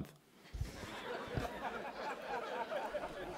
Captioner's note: laughter